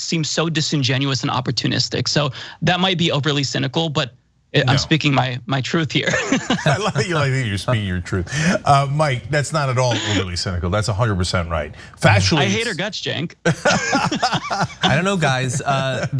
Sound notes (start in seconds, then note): 6.1 laugh; 13.4 laugh